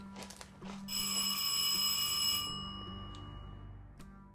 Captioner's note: doorbell rings